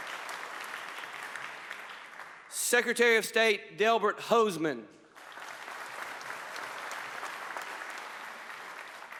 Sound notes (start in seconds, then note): 1.8 applause; 7.0 applause